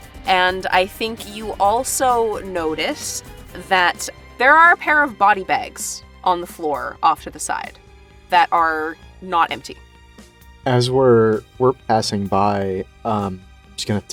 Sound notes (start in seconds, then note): none